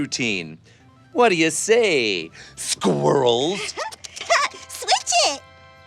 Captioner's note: munching